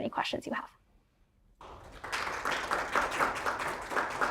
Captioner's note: audience applauds